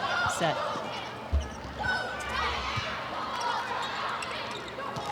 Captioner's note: players shouting indistinctly